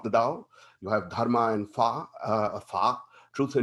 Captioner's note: speaks in Mandarin